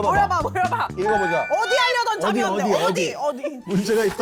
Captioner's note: sound of everyone gathering